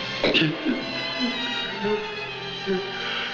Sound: crying

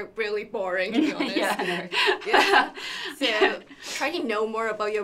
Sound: laughter

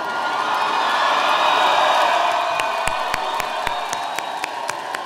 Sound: audience cheering

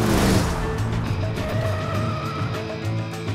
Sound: tires squealing

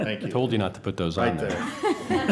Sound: laughter

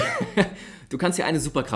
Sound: laughs

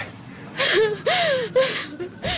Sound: sobs

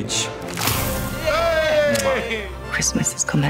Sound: cheering

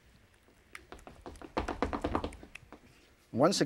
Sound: feet tapping

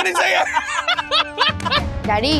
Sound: laughs

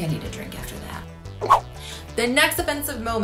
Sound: swooshing

